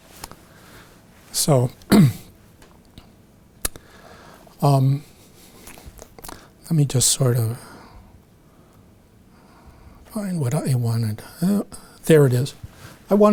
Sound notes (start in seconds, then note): 1.8 clears throat